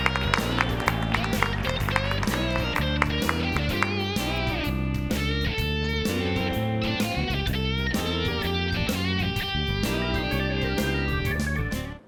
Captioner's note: cheers and applause